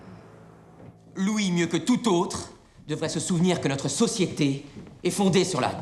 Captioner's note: men speaking in French